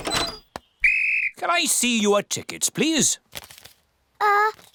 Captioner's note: blows whistle